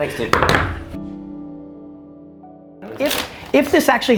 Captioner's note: knuckles rapping